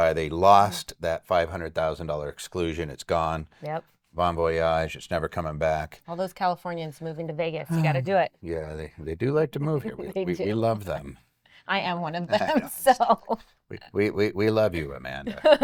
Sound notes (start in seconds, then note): 12.3 chuckles; 12.3 laughs